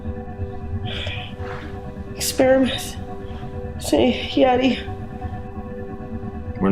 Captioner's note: sighs